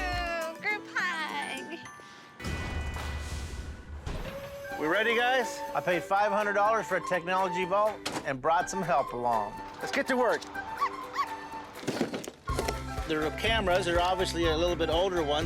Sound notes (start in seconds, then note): 10.7 dogs barking